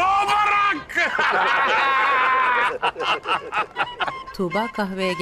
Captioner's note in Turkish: Gülme sesi